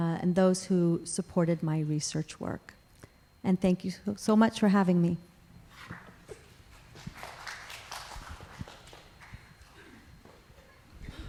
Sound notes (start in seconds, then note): 7.0 audience applause